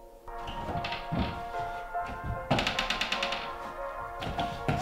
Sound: door opens

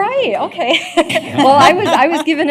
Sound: laughter

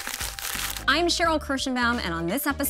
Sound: wrapper crinkles

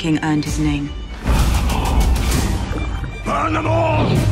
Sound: whispers

